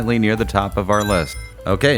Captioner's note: Sonic Ring Chime